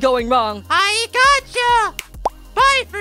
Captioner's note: snap